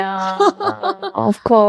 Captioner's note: laughing